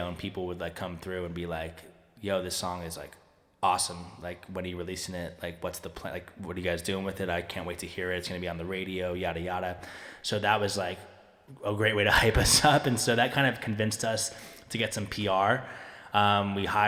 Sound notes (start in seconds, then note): 12.4 chuckling